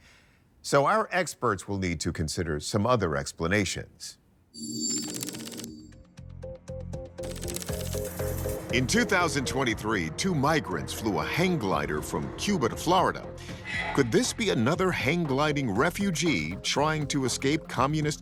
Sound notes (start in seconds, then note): 4.8 text clacking; 5.7 inquisitive music